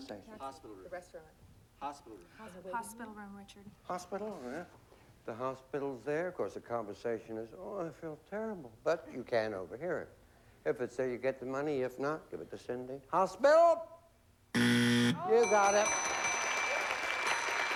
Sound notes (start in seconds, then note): 14.5 buzzer; 15.3 applause